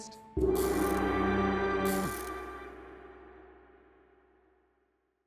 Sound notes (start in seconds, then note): 0.0 soft music; 1.8 electricity buzzing